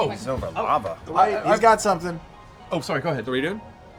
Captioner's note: none